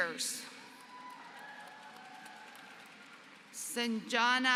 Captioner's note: applause